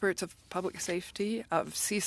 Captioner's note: speaking French